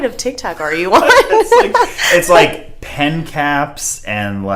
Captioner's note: laughs